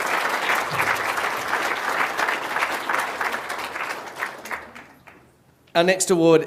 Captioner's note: applause